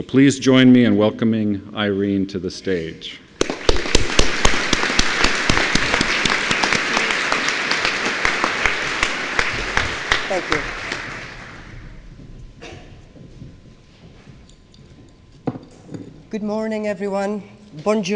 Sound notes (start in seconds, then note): 3.5 clapping